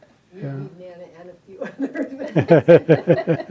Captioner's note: laughs; laughing